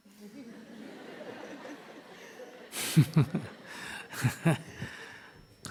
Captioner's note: Audience/Sunim Laughter